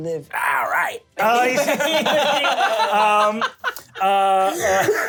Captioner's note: laughing